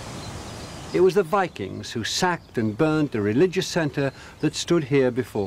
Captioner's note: birds chirping